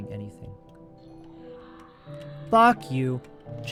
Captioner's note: shrieker shrieks